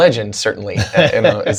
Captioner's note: laughter